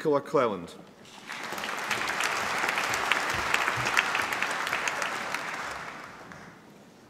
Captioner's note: applause